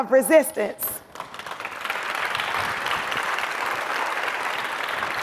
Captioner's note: audience applauds